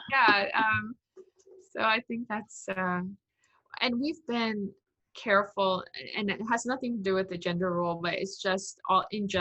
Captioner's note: laughs